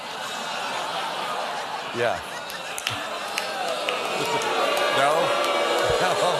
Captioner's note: laughter; booing